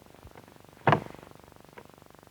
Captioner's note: thud